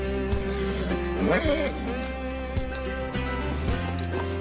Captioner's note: snorts